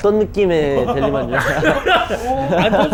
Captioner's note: laughing